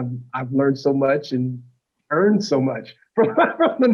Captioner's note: laughter